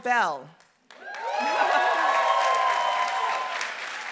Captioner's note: applause